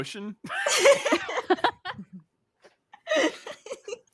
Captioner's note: group laughs